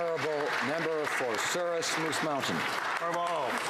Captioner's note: speaking French